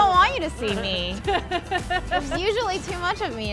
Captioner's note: laughing